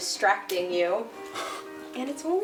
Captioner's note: scoffs